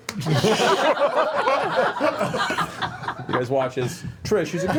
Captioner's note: laughter